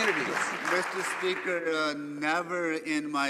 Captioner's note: some Applause